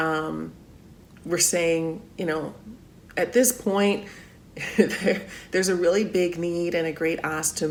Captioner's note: laughs